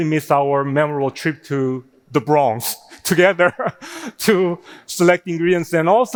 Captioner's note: laughing